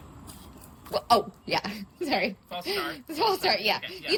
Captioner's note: laughs